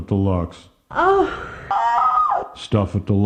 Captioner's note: moans